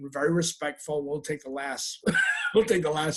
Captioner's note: laughing